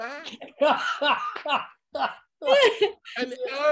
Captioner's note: Martin laughing